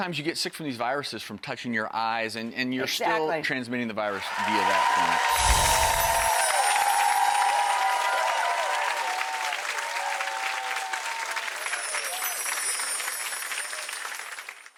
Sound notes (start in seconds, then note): 5.8 audience cheering; 7.7 chimes